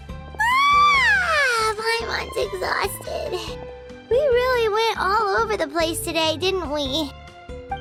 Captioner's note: yawn